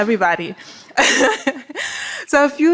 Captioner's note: laughter